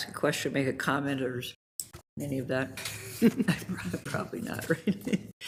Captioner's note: chuckles